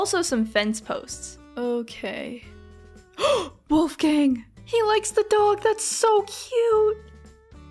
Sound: gasp

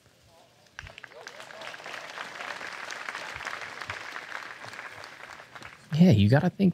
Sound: applause

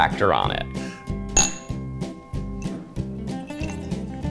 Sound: glasses clinking

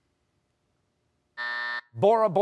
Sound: buzzer

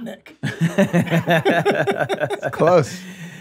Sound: laughs

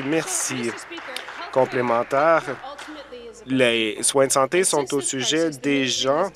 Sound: applause

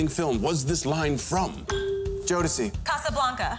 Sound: ding

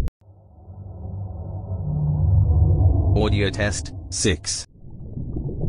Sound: eerie ethereal transitional SFX

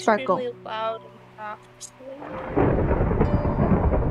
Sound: thunder crackles

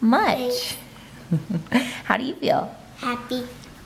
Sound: chuckles

